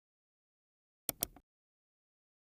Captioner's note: keyboard clacking; mouse click